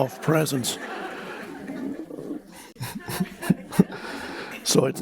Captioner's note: crowd laughs; Eckhart laughs